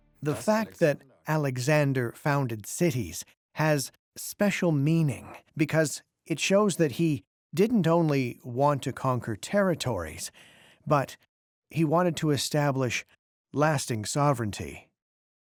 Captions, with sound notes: [in German] The fact that Alexander founded cities has special meaning because it shows that he didn't only want to conquer territories, but he wanted to establish lasting sovereignty.